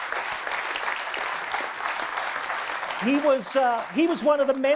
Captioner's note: audience applause